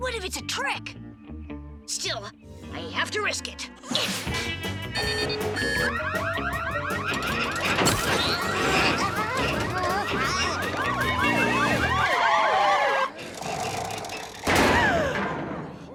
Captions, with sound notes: WHAT IF IT'S A TRICK? STILL; I HAVE TO RISK IT. [alarm sounding] AAH!